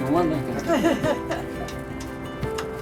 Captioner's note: laughter